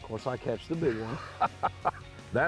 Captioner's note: laughs